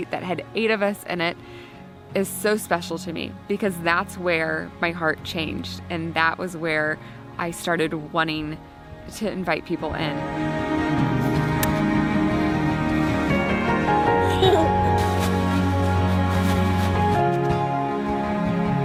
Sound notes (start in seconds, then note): 10.7 inspiring music; 14.3 laughter